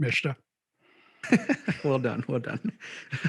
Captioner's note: laughing